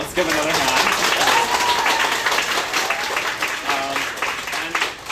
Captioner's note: applause